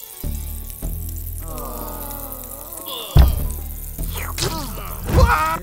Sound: sizzling heat, groaning; Tumbleweed screams as he dies

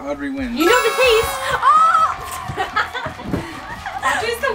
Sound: applause

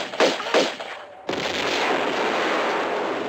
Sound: big explosion

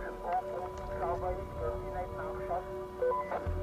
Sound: radio

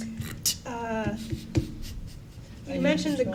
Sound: laughing

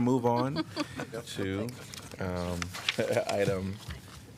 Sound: laughter

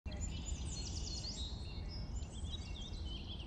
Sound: birds chirping

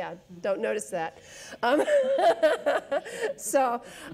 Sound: laughs

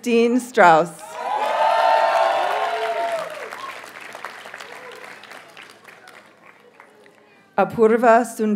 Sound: audience cheers and applauds

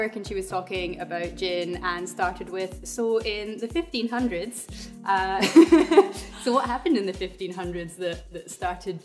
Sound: laughs

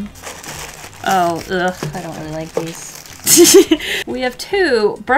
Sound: laughs

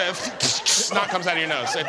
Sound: audience laughing

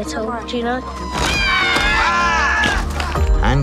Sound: screaming

